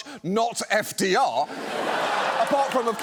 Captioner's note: audience laughs